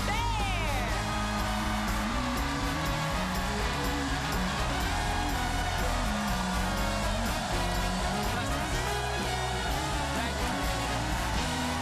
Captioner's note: cheers and applause